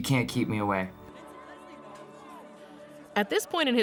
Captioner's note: crowd faintly chattering